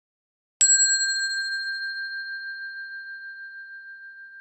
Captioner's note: bell dings